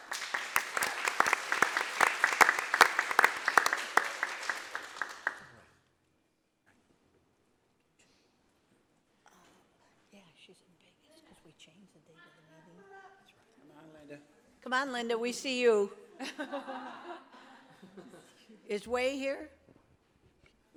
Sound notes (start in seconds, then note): 0.0 applause; 16.1 laughter